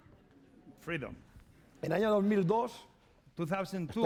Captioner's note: speaking spanish